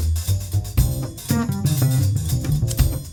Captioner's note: coughing